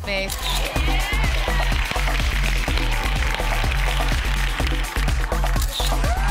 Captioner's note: camera snaps